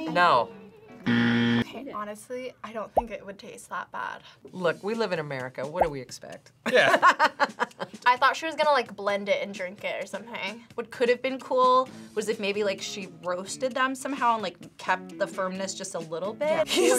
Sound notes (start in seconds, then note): 1.0 buzzer rings; 6.5 laughs